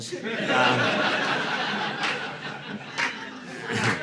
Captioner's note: audience laughing